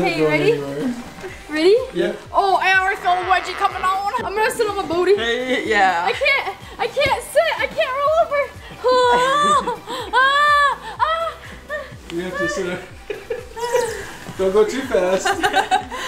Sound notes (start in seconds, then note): 8.8 yells; 14.2 laughs